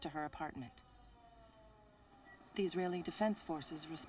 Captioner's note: sirens